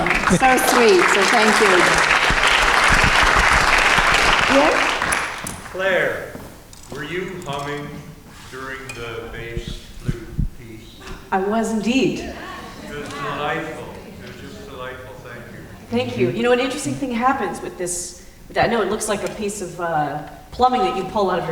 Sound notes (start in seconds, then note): 1.7 applause